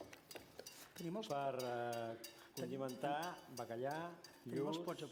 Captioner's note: non-english speech